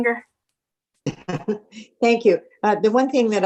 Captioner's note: laughing